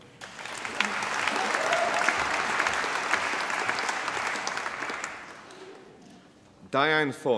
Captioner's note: applause